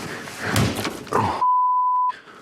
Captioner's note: loud banging